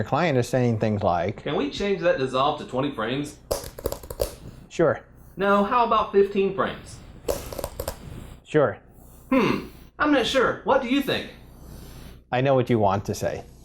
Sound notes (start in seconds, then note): 3.5 keyboard typing; 7.2 keyboard typing